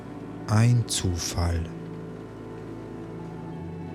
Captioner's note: german